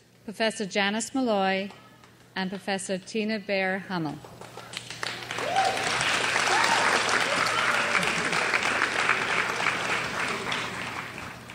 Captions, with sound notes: Professor Janice Molloy, and Professor Tina Bayer-Hummel. (crowd applauds)